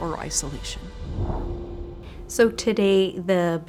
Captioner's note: air whooshing